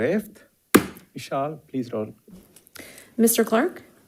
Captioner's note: hammer slamming